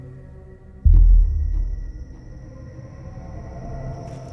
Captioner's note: crickets chirping